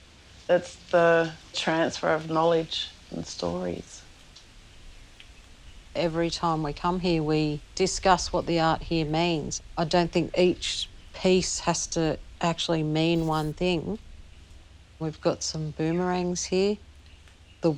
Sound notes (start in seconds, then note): none